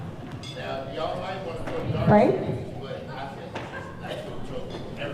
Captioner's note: speaking off mic